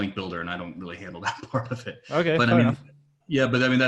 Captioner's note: laughs